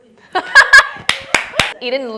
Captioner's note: laughs